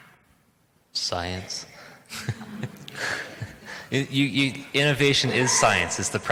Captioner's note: laughs